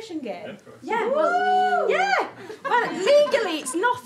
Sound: some whoops

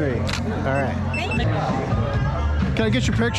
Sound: camera shutter snaps

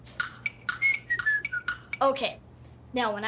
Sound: whistling

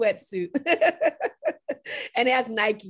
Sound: laughs

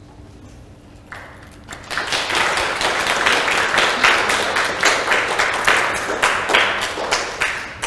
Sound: applause

